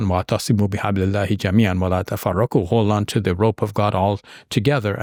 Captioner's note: speaking Arabic